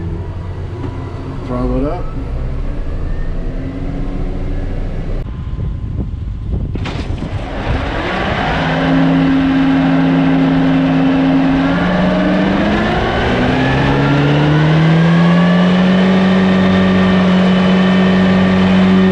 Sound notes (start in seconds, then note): 2.9 tractor whirring; 6.9 Discbine rapidly whirring